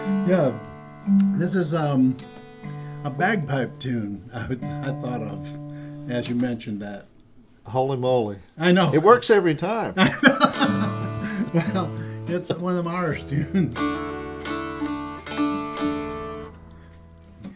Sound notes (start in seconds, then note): 9.9 laughter; 13.6 dulcimer playing